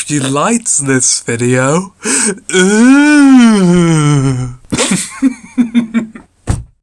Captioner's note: thud